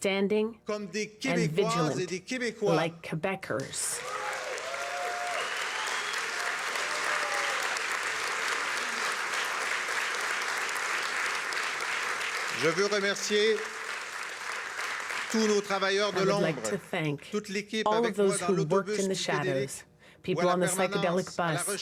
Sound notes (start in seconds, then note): 8.1 cheers and applause